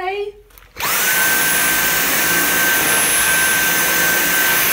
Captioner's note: vacuum noises